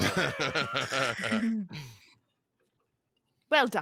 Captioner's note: laughs